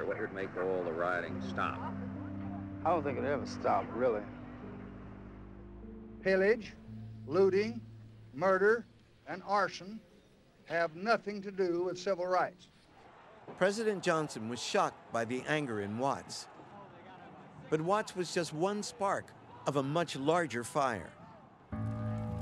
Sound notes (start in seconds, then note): 0.0 voiceover; 13.9 voiceover